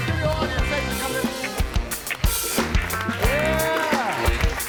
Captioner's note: audience applauds